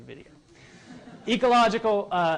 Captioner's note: laughter